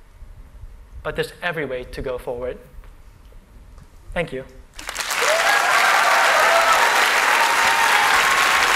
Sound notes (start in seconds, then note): 4.7 applause